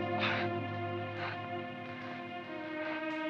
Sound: Tony sobbing; melancholy music

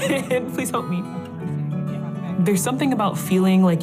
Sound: laughter

